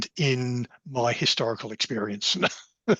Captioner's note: laughs